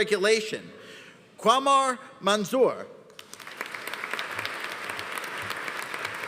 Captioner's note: audience applauding